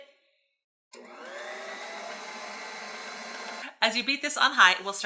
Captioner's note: mixer whirring